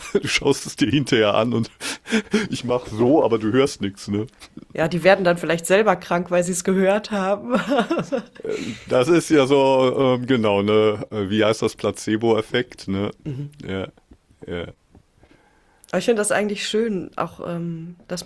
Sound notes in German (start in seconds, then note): 0.0 gelächter; 7.5 gelächter